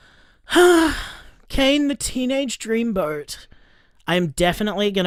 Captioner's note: sighs